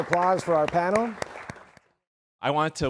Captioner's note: everyone applauding